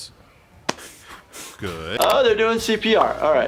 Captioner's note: student breathing